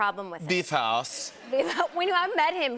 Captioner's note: German accent